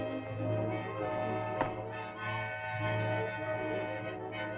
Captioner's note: powder bottle lands on table; suspenseful music